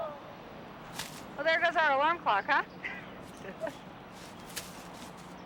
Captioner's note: laughs